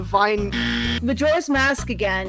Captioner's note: wrong buzzer